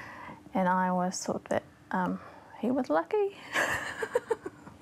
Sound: laughs

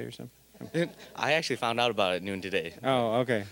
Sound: audience laughing

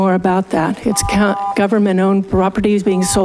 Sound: buzzer beeps

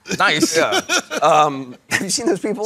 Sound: laughing

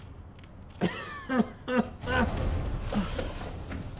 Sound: coughs

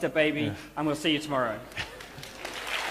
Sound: applause

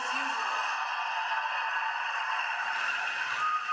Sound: applause

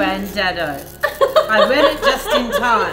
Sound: all laughing

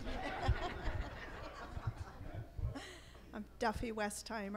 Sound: laughs

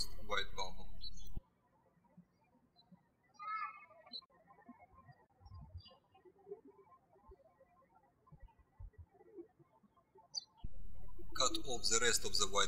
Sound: birds chirping

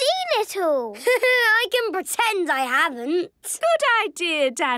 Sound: Danny laughing

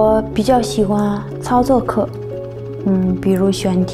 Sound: chopping sound of helicopter

